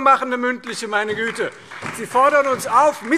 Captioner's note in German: Beifall Freie Demokraten, SPD und DIE LINKE